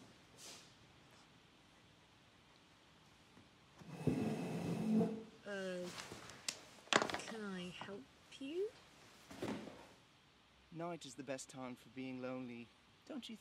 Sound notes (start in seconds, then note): 0.2 footsteps. chair scraping; 9.3 chair creaking